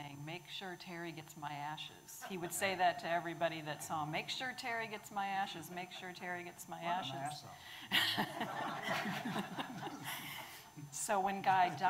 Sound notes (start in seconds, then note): 7.9 audience laughing